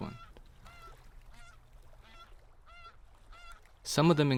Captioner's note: geese honking